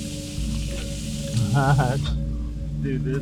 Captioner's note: chuckles